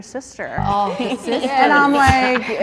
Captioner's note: ladies laughing in disbelief